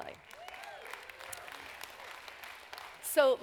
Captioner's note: applause